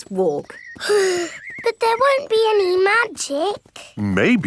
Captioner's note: sighs